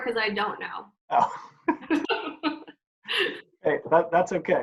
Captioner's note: laughs